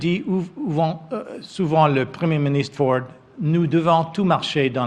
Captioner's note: speaks French